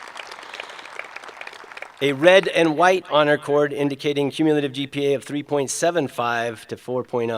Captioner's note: applause